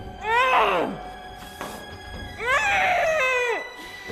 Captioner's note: heavy grunting